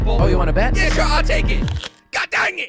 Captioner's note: crunch